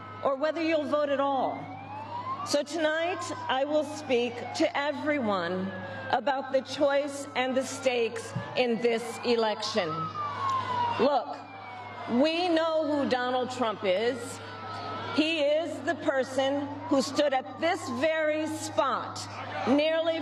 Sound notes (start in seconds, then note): 3.5 cheers and applause